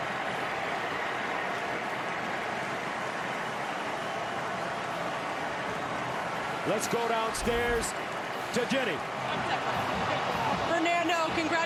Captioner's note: cheers and applause